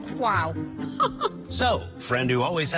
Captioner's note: laughs